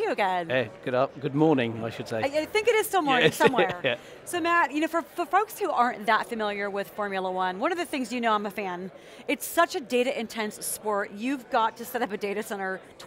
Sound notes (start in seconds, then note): 3.2 laughter